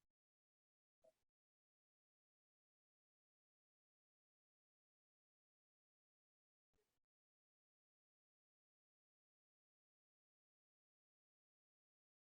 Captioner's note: no sound